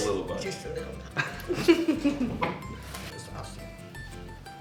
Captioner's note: laughing